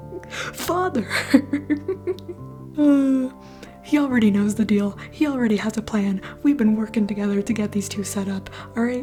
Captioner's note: chuckle